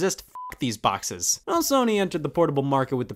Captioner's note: beep